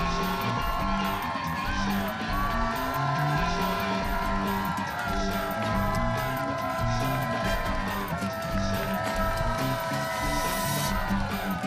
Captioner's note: cheers and applause